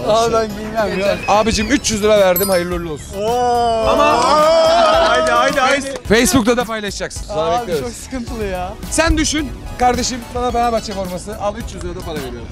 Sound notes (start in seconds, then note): 4.1 friends applauding